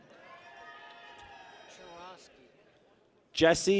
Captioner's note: people cheer